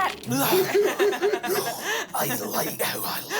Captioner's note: everyone laughs